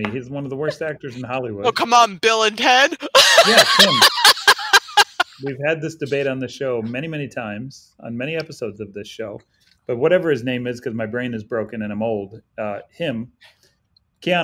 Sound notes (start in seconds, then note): 2.8 laughs